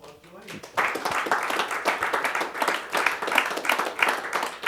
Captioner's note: applause